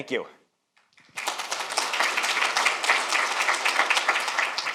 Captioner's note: audience applauds